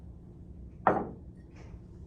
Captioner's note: Clink of a UNC NROTC mug on the table